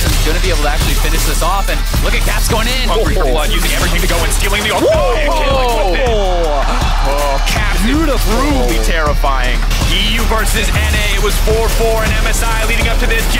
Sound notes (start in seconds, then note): 6.5 cry out